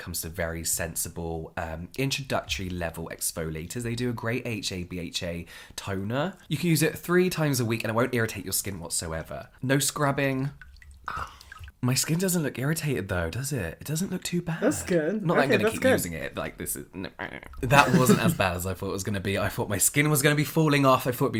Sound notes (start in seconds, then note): 17.6 laughs